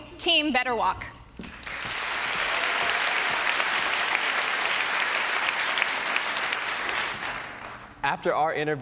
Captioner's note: applause